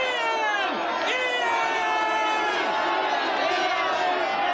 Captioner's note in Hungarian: üdvrivalgás, éljenzés